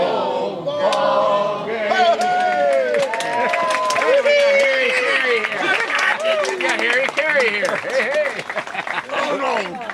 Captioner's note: cheering